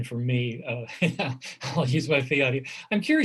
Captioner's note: chuckles